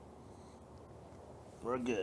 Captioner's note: street noise